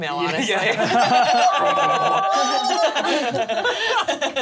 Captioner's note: laughs